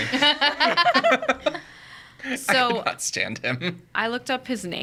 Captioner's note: group laughs